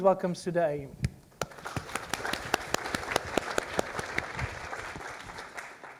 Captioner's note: applause